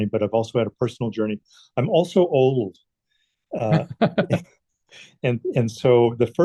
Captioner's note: chuckles